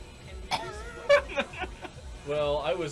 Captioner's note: chuckles